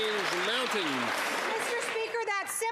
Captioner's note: some Applause